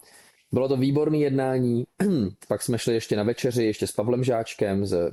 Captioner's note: clears throat